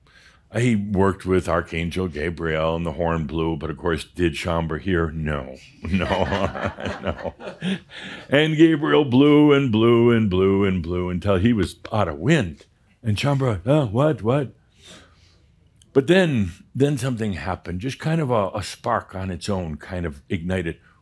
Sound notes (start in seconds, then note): 5.8 laughter; 5.8 chuckles